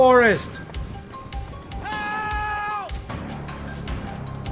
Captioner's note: man screaming